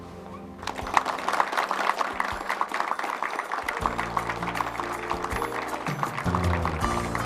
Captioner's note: upbeat music; group clapping